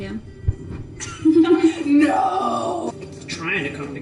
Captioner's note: laughs